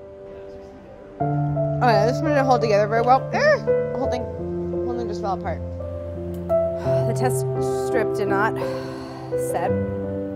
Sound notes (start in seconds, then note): 3.3 squeals softly; 8.6 sighs